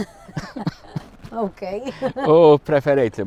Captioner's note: laughs